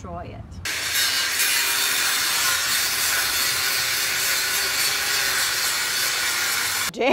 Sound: table saw noise

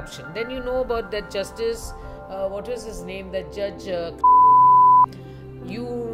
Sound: beeeeep

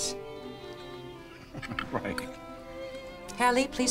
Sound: chuckles

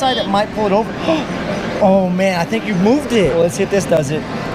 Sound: gasps

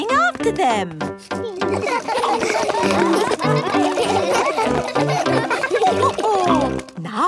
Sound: all laugh

